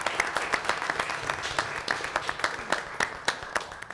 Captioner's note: applause